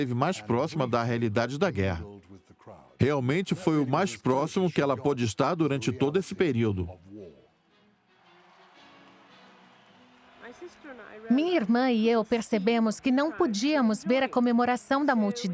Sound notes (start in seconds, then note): 7.9 crowd cheering